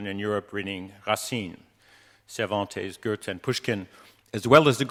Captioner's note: speaking in foreign language